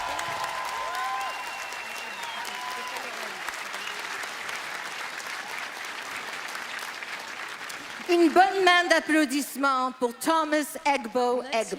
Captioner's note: applause